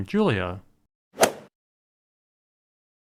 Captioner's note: swoosh